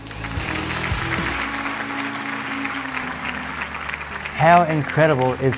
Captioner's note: applause